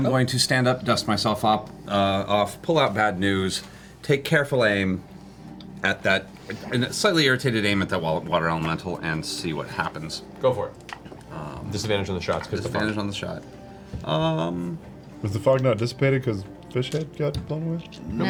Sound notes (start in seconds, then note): none